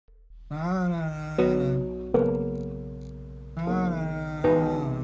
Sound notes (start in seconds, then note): 0.4 Dave humming